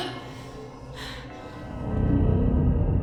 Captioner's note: Dr. Byler chuckles; Claire groans; ominous music